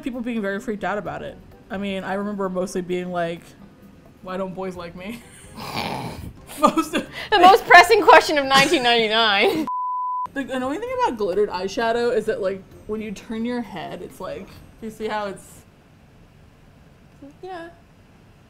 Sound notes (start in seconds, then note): 6.4 both laugh; 17.2 hesitantly